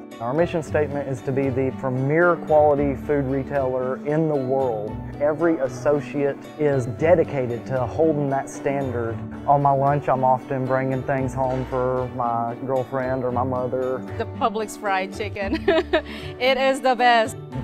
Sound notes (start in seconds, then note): 15.4 laughs